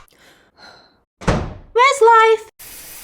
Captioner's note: slam